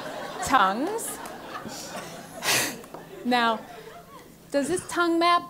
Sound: laugh

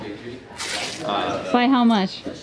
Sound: bandage tearing

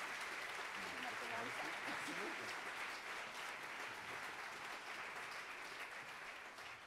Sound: Michelle speaking faintly; speaking faintly

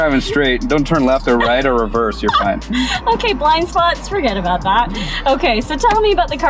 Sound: laughs

